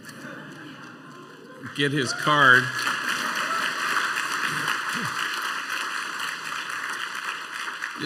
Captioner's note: applause